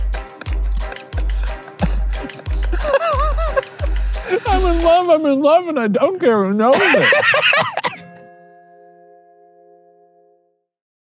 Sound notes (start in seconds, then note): 0.1 laughing; 6.7 laughing; 8.4 gentle music